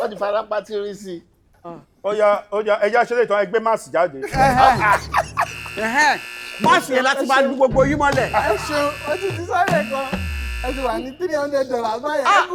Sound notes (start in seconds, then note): 4.2 everyone laughs; 7.6 buzzer pressed